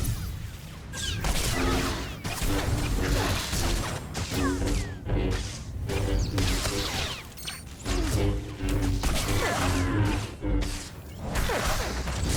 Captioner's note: gunfire